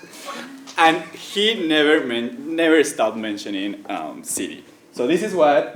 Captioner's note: laugh